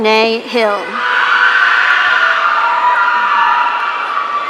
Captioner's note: audience cheering